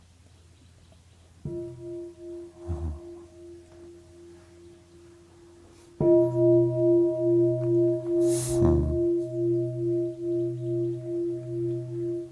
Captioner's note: bell